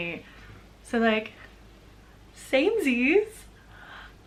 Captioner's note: gasp